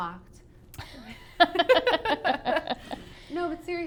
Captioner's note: laughs